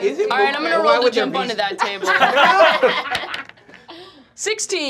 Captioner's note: laughing